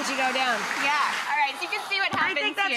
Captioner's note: applause